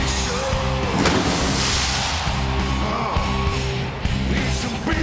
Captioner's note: explosion booms